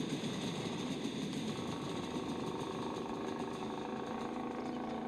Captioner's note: engine whirring